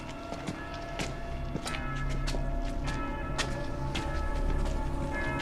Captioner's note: bell tolling